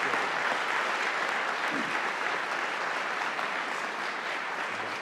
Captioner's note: audience applauding